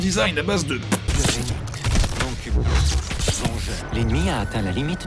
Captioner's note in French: Bruits de démembrement, d'impact de lasers et d'explosions; Voix de Stewart